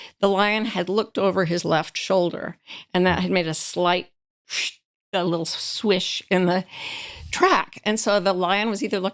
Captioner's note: swish sound